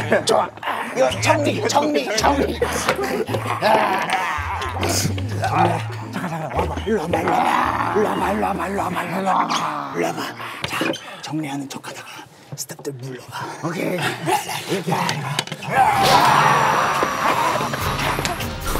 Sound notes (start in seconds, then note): 4.7 huff of laughter; 11.3 whispers loud enough for everyone to hear